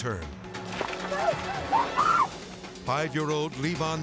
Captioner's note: person screaming